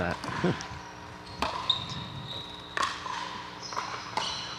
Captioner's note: ball bouncing